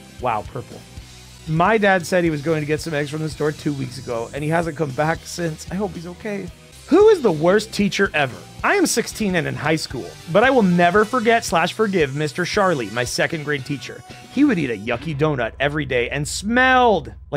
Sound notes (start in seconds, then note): none